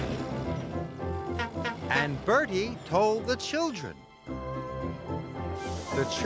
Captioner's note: honk-Honk!